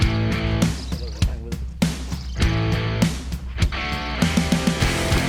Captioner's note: indistinct chatting; upbeat rock music